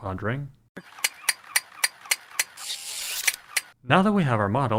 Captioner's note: toy sounds